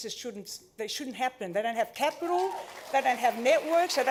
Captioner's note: cheering, applause